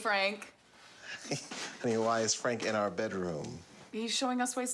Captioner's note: laughs